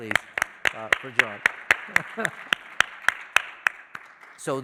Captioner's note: applause